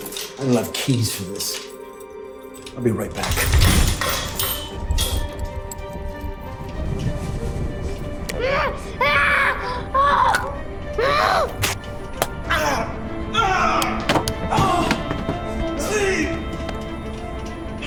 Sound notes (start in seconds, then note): 3.0 gate clangs; 8.7 Marcus screams; 12.2 Clark groans; 14.5 dramatic music